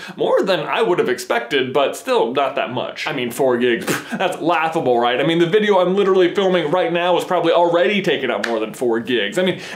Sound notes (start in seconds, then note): 3.8 pfff